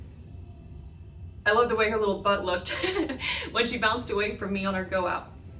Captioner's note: laughs